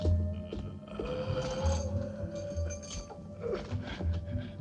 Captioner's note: groaning